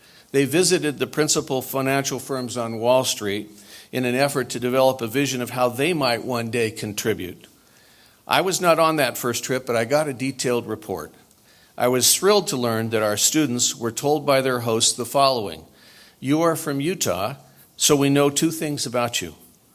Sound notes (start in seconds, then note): none